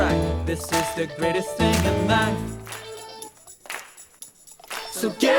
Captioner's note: people clapping